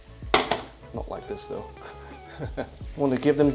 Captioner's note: chuckles